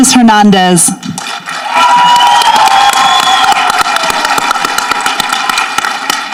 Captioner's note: people applauding and cheering